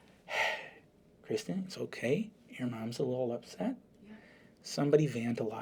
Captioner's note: sighs